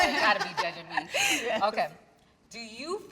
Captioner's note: everyone laughing understandably